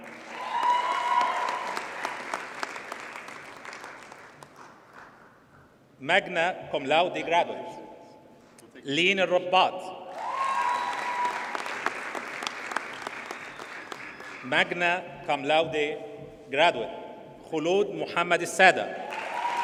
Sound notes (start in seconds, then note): 0.0 audience cheers and applauds; 10.1 audience cheers and applauds; 19.0 audience cheers and applauds